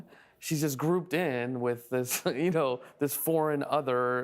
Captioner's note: laughing